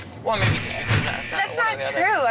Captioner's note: computer error noise